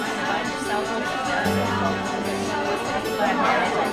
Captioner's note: party chatter